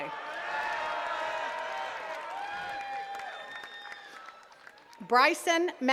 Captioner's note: attendees cheering and clapping